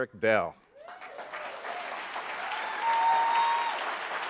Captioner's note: applauding